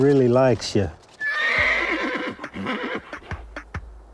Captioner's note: neighing